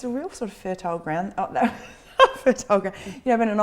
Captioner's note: laughs